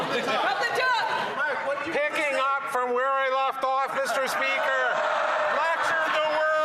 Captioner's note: screaming